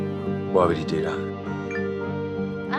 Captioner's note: message alert